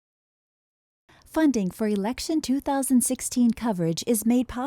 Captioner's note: voiceover